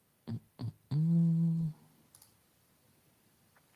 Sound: hums

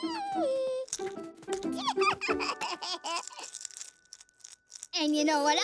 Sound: baby laughter

